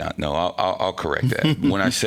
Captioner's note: laughing